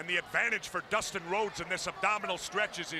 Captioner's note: crowd chatter